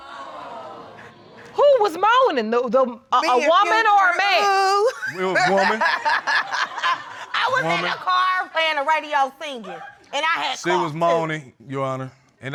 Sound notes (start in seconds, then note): 6.5 laughing